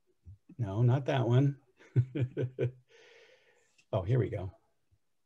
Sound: laughs

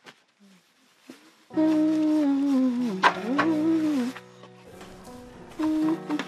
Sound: humming

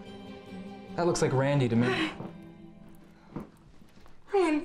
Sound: Katharine gasps

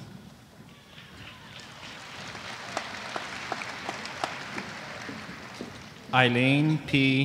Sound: applause

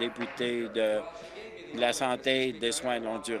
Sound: applause

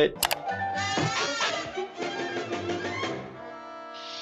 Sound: mouse clicking

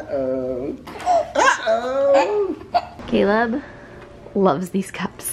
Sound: giggling

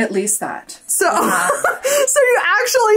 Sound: laughs

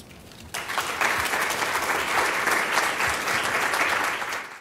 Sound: applause

